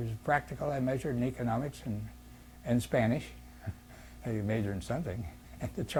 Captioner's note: laughs